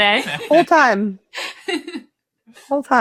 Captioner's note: chuckling